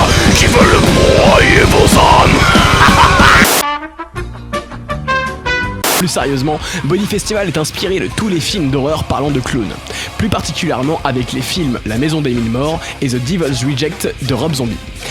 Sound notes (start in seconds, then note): 2.2 laughter Machiavellian!